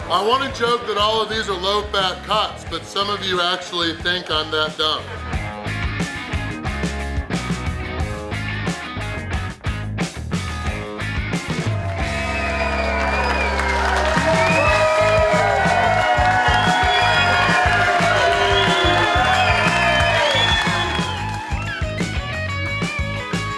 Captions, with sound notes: I want to joke that of these are low fat cuts, but some of you actually think I'm that dumb. (upbeat rock music) (audience cheering) (upbeat rock music)